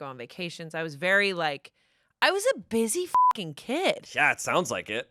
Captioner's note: beep